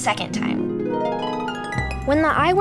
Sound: screen chimes

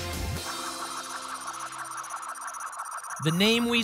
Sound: spinning sounds

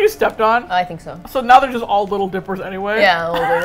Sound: laughs

